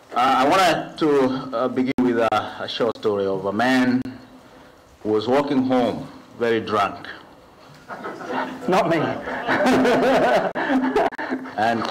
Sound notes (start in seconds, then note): 7.7 laughs; 7.7 laughter